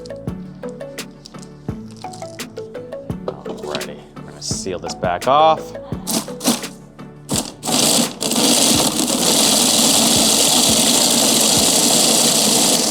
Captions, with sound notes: Alrighty, I'm gonna seal this back off. (machine buzzing)